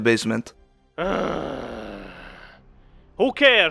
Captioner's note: groan